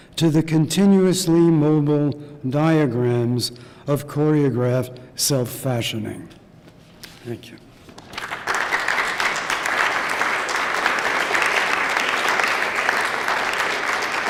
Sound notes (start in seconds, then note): 8.0 applause